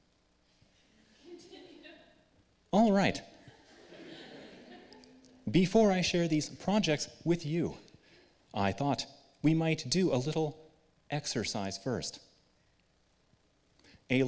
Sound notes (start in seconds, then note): 3.4 laughter